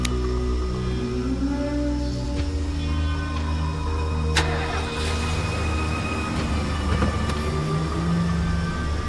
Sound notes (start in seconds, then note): 4.7 car engine starting